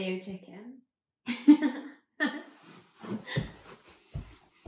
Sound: laughter

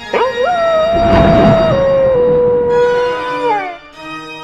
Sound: spooky music; dog howling

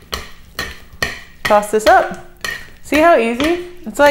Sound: clanking

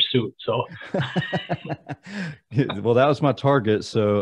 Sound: laughing

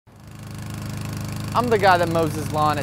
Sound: lawn mower engine

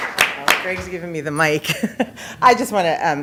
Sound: applause

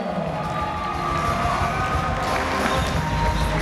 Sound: cheering

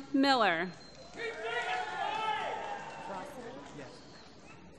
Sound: applause

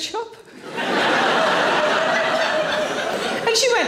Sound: audience laughing

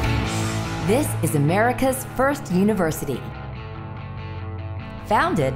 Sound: voiceover

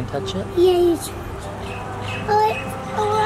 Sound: mutters

